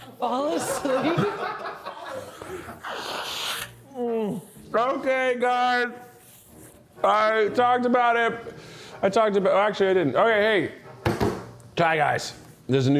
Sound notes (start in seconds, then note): 1.3 crew laughs; 1.8 sniffs